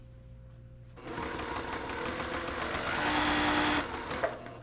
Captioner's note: sewing